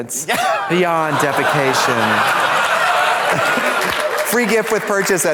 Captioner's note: audience laughs